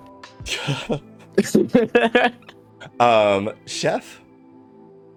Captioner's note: laughter